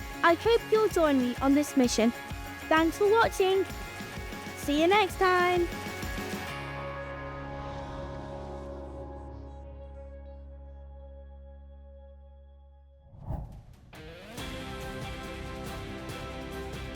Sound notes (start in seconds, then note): 7.3 air whooshing; 7.3 ethereal music; 14.0 uplifting music